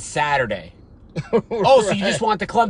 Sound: laughing

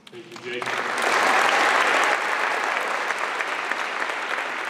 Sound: applause

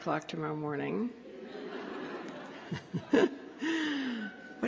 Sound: laughter

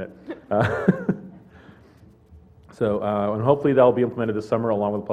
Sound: laugh

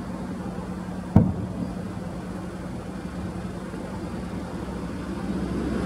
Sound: museum cannon shots

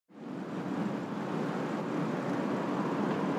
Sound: ambient traffic noise

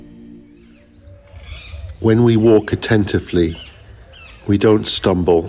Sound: birds singing

